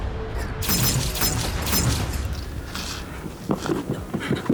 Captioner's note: laser humming